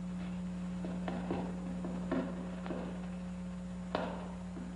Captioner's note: soft footsteps